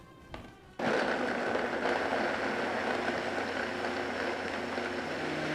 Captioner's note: blender whirring slowly